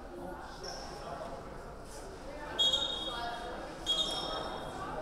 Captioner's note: whistle blowing